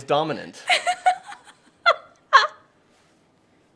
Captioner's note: laughing